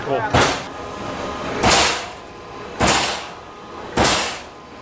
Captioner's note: steel clanging